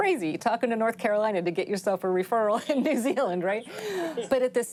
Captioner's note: chuckles